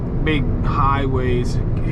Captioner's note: car engine revs